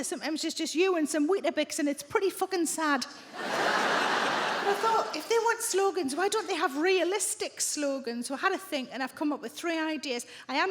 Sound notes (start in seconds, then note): 3.3 audience laughing